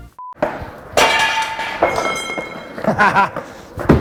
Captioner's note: items clank; chuckles